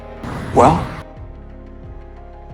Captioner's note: voiceover